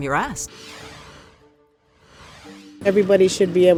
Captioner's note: logo whooshing